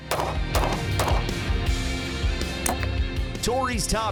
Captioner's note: gunshot sounds